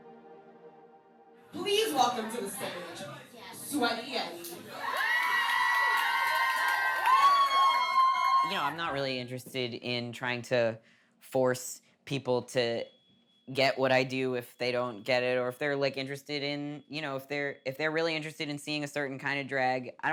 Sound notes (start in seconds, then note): 4.5 audience cheering